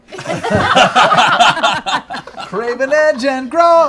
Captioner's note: laughter